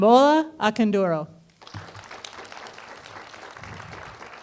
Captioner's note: applause